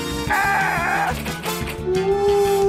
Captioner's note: screams